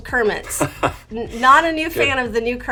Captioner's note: laughs